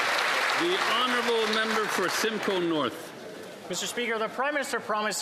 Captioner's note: some Applause